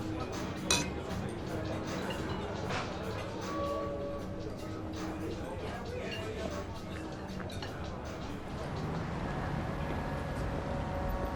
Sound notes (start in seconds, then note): none